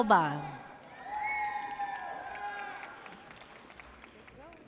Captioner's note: audience cheers